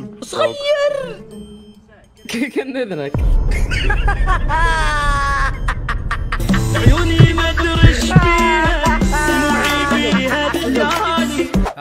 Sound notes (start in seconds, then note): 3.4 in-video laughter; 6.4 sad Song